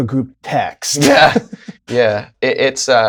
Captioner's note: laughter